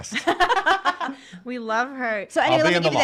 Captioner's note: laughs